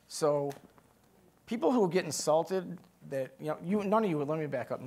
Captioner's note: none